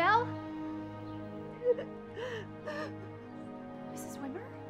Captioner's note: crying